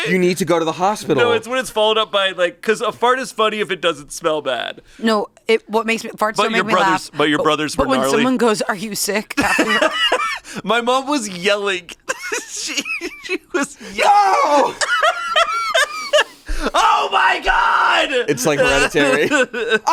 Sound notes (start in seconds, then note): 9.3 laughs; 13.9 screams; 15.4 laughs